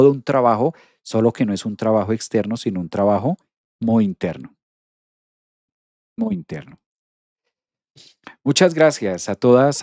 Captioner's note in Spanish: resoplido